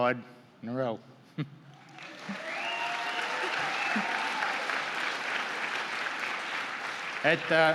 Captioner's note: applause